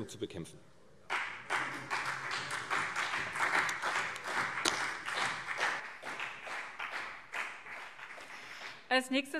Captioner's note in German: Beifall CDU und BÜNDNIS 90/DIE GRÜNEN